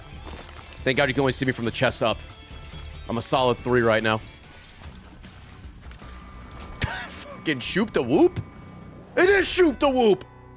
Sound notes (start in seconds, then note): 6.8 laughs